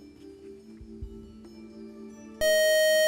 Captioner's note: buzzer